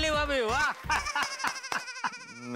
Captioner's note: chuckles